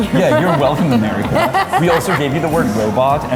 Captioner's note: laughing